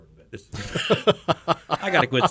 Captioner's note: men laugh